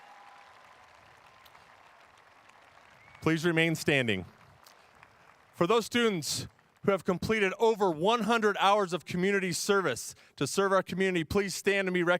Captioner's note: cheers and applause